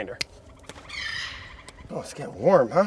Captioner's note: bird squawks